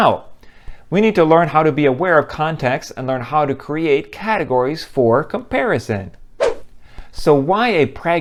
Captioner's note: swoosh